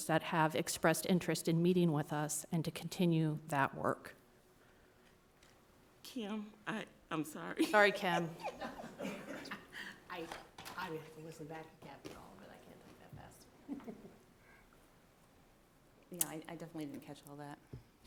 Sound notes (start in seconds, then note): 7.6 soft laughter